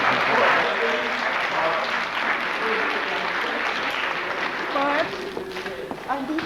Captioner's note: applause